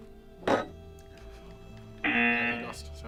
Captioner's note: spoon thumps; klaxon blares